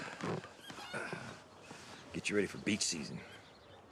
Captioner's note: groans